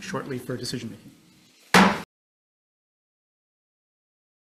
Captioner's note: gavel taps